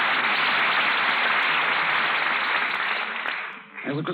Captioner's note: applause